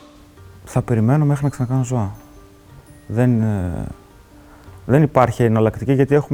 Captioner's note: speaking in foreign language